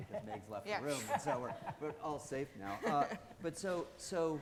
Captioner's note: all chuckling